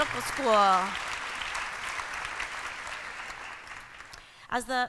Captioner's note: applause